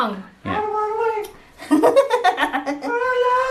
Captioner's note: laughs